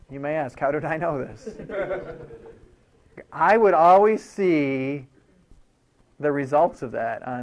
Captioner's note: laughing